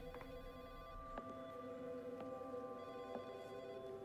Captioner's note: footsteps